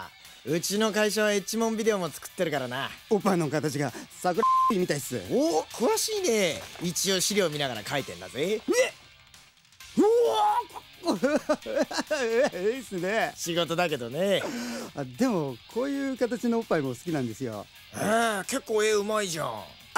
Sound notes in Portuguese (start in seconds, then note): 4.4 bip!